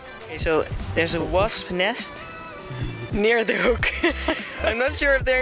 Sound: chuckles

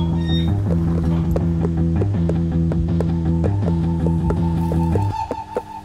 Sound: cage door creaks open; hoofsteps

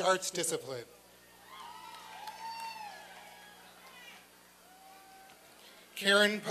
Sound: applause and cheering

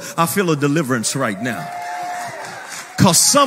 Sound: people cheering

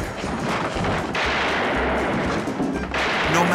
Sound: gunshots

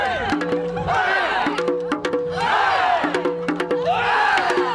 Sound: crowd cheers along

